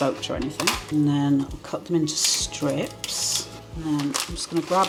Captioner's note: crispy snipping